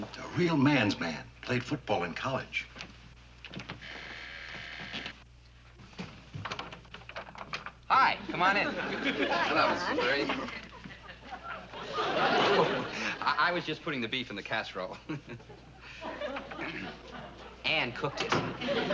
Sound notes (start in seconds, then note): 3.8 buzzing; 14.8 chuckles; 16.6 Lew clears throat